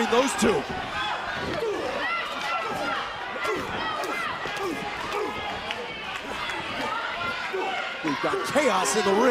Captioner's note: crowd cheering